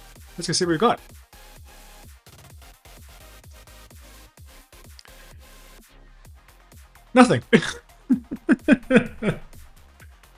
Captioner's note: laughs